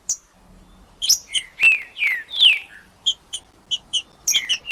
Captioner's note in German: trinca ferro cantando